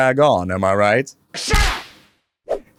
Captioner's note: smack